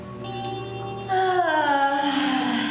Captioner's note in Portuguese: Som de Bocejo